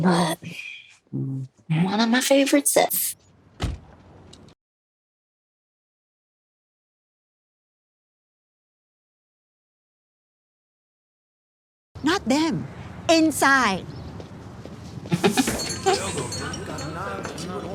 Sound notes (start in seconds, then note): 15.1 chuckles